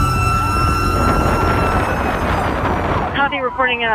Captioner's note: wind blowing